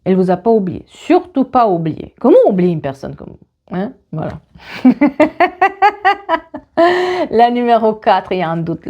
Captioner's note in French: rires